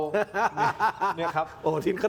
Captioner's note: laughs